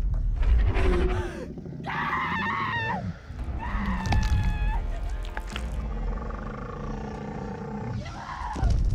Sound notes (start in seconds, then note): 1.5 Cait screams